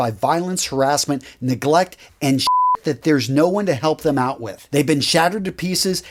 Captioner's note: beeping sound